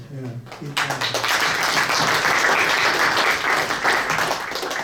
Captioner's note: audience applauds